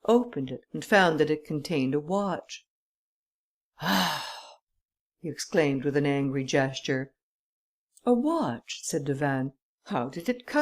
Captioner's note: sighs